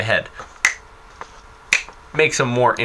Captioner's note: snaps fingers